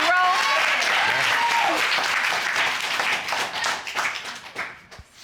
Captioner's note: audience applauding